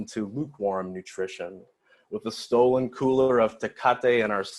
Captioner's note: foreign language